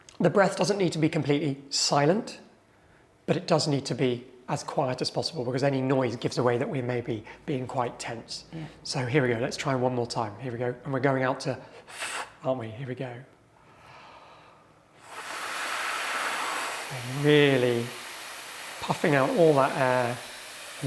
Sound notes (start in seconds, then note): 15.0 students hissing